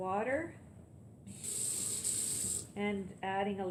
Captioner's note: running water